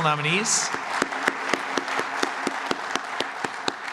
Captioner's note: applause